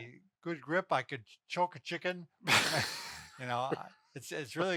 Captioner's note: both chuckling